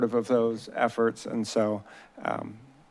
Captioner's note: none